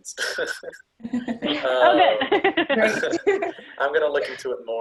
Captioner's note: all laughing